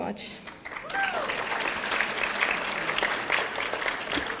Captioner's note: audience applauding